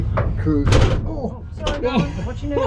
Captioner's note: door bangs